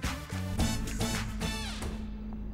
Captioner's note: Door closes